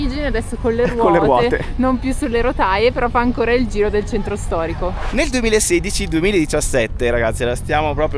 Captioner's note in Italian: risate